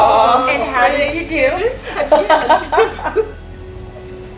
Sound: laughing

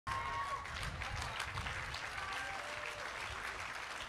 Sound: congregation applauding

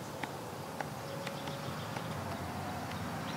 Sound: typing

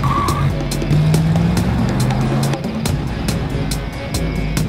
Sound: car revs

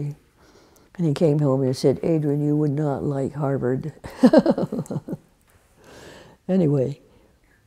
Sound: laughs

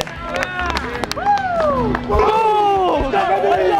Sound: cheering

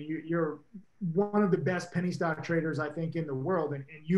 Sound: none

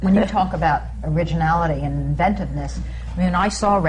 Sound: laughter

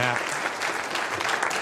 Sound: applause

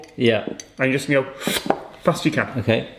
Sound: slurps

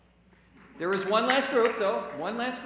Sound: applause

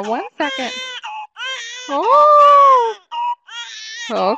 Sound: baby crying

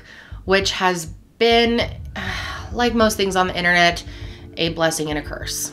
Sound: sighing

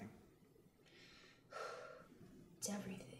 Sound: sighs

